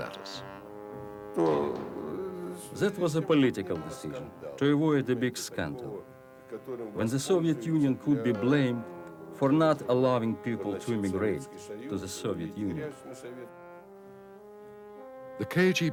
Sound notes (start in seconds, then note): 4.2 speaks in foreign language